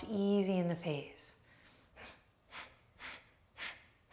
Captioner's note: sharp breathing